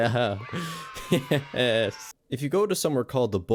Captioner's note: more giggles